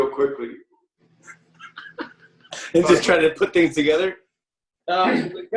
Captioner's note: laughs